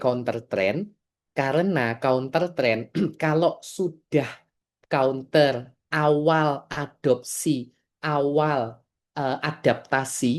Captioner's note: berdehem